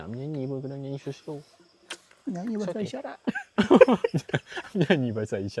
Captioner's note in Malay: ketawa